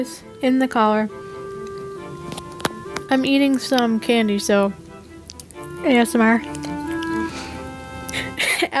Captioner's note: nasty chewing noises